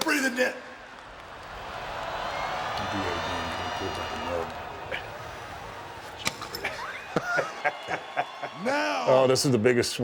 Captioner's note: laugh